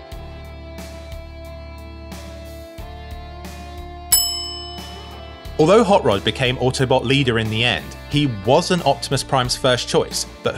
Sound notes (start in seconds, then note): 4.1 bell dings